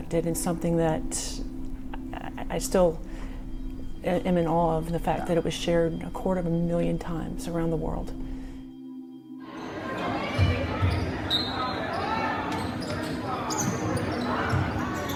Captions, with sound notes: and something that I still am in awe of and the fact that it was shared a quarter of a million times around the world. (students chattering)